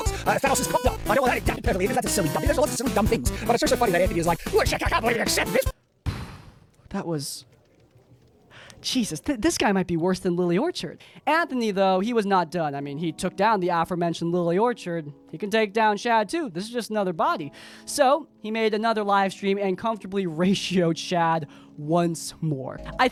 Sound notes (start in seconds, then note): 0.2 speaking extremely fast and Australian; 6.1 exhales sharply